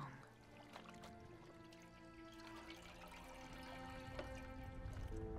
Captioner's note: water trickling